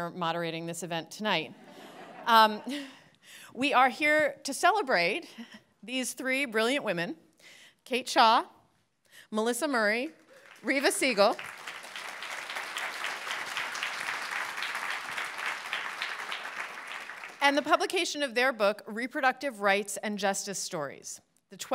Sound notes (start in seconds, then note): 1.6 audience laughing; 10.2 audience applauding